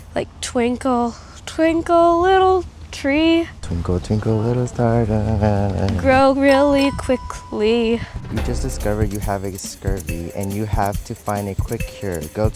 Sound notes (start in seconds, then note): 6.4 bell dings; 7.9 suspenseful music